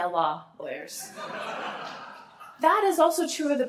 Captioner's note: laughter